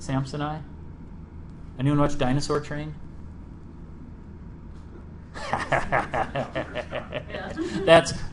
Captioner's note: laughs